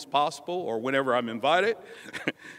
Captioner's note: laughter